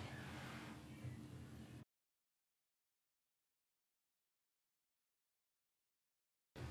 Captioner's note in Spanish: Silencio incómodo